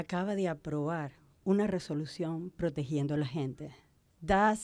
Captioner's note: Spanish